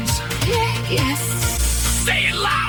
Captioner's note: Elara, female, trembling